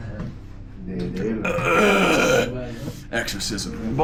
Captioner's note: groans